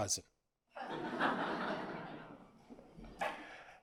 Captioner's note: audience laughs